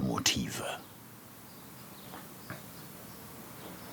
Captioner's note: birds chirping